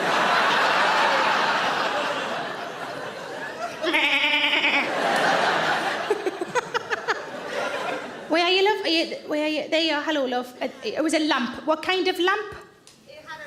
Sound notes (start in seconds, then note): 2.5 audience laughs; 3.8 Sarah bleats; 4.4 audience laughs; 6.0 Sarah laughs